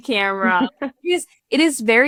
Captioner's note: laughing